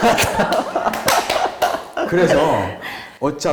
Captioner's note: ALL cracking up